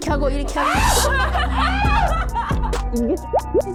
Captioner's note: screams